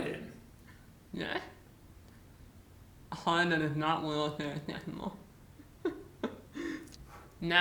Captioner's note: laughs